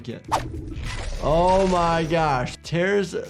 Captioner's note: bone cracks